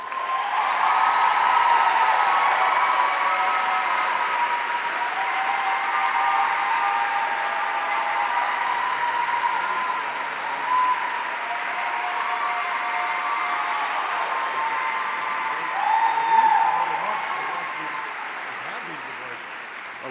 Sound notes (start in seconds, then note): 0.3 audience cheering; 15.7 faintly speaking